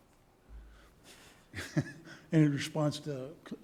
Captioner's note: chuckle